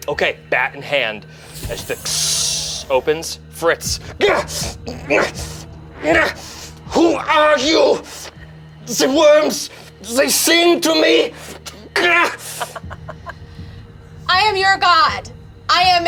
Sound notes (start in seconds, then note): 1.3 door hisses; 4.5 grumbles; 12.5 laughs